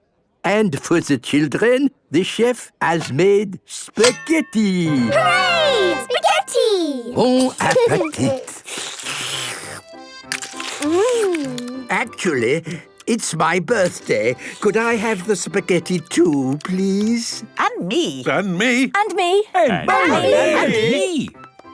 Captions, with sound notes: And for the children, the chef has made spaghetti. - Hooray! Spaghetti! - Bon appetite! - (slurping) Mmmm! - Actually, it's my birthday. Could I have the spaghetti too, please? - (calling out in turn) And me! And me! And me...!